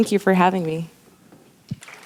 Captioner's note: clapping